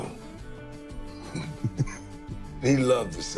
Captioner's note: laughs